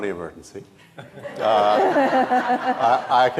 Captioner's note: audience laughing